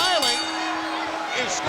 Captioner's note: bell rings